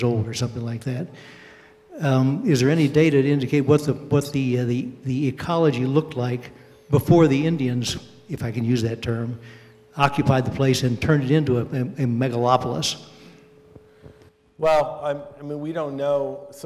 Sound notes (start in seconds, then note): none